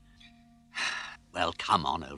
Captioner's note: sighs